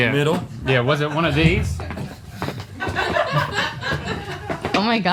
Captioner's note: crew laughing